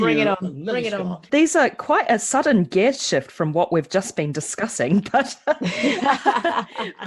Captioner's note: laughs